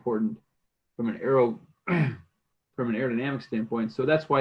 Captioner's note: clears throat